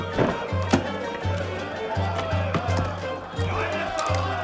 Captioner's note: men laughing